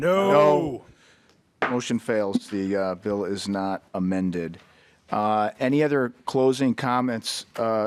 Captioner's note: chorus of ayes